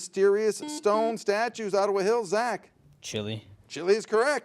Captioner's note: buzzer beeps